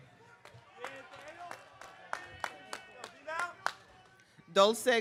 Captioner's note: audience clapping